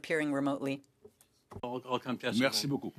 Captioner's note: speaking French